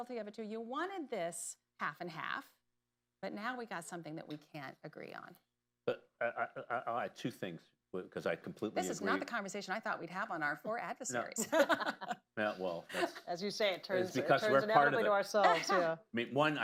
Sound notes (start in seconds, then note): 11.3 laughter